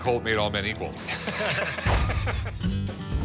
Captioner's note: both laughing